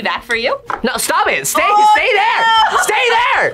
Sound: laughs

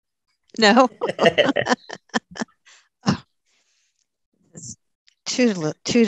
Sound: laughs

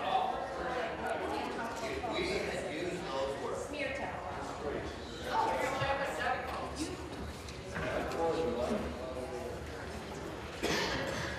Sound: conversation din

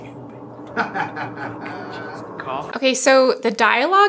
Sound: laughing

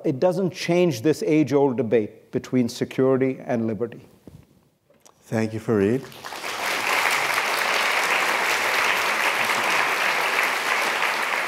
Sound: applause

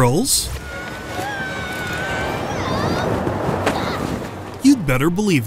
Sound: screams

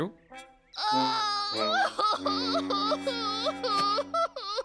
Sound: wailing; sobbing; sobbing continuing

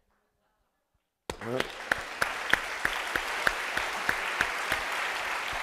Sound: applause

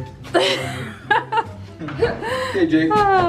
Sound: laughs

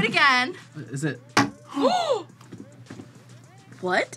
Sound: both gasp

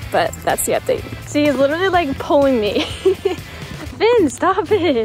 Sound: laughs

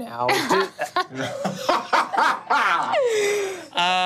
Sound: all laughing

